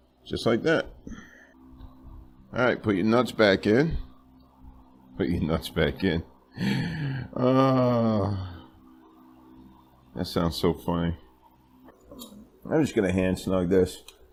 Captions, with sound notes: just like that alright, put your nuts back in (speaking slowly) put your nuts back in (laughing) that sounds so funny I'm just going to hand snug this